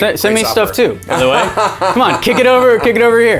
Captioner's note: laughing